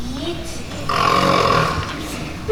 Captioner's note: snoring